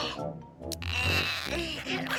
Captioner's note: Milo grunting